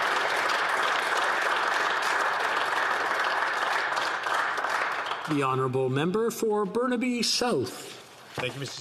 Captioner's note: applause